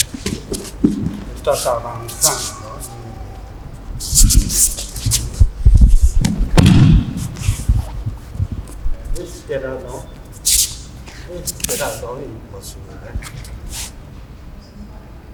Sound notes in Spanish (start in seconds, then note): 4.0 sonido desplazamiento en tatami y caída